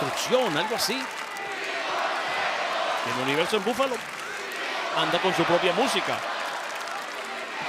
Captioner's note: crowd chanting indistinctly and clapping